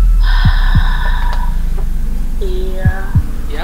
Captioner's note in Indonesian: long exhale